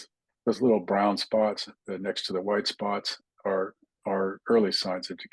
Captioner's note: indistinct chatting